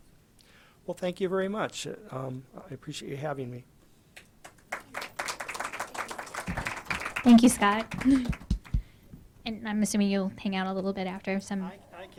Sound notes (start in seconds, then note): 4.4 audience applauding; 7.2 voiceover